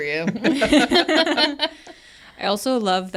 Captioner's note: speakers laugh